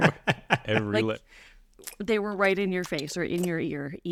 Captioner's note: makes licking sound